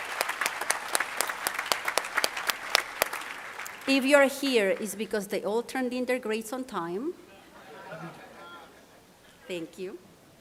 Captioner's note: applause